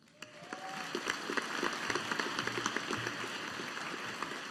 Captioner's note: audience applauding